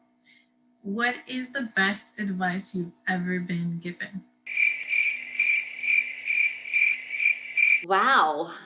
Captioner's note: cricket sound